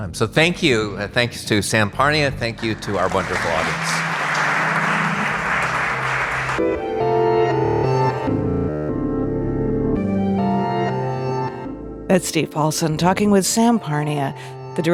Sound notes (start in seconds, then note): 4.2 audience applauding; 6.9 unsettling orchestral music